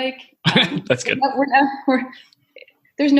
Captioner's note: laughing